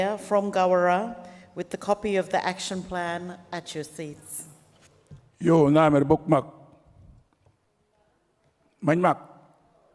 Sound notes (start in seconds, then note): 5.7 speaks native language